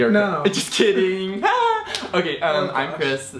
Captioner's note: laughs